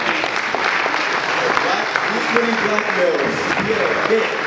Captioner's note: audience applause